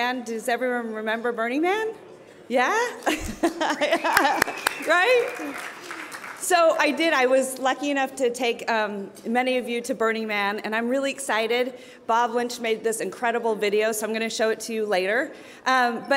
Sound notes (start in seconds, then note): 3.0 laughs; 3.8 cheering